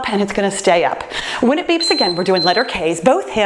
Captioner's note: timer beeps